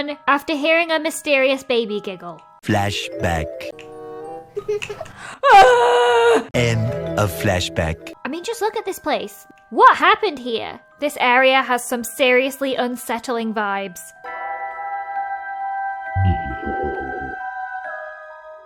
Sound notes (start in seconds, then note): 4.6 baby giggling; 14.2 creepy music